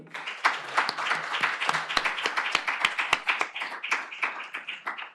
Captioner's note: applause